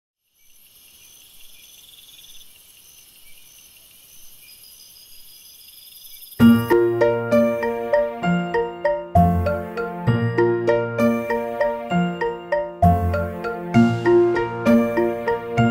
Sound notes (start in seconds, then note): 0.2 loud crickets; 7.1 slow paced music